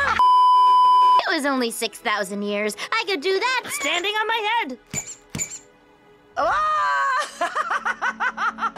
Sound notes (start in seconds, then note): 0.2 beeeeeep; 4.9 squeak squeak; 6.7 breaks down in laughter